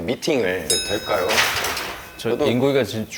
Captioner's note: rattling